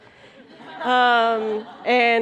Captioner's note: laughter